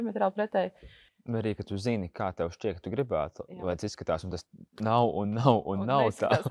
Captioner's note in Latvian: Smiekli